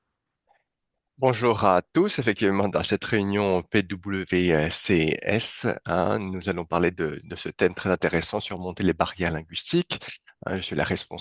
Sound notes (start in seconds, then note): 1.2 interpreter speaking in French